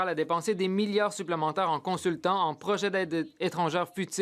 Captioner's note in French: voix de l'interprète